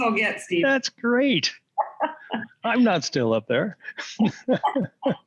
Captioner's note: laughter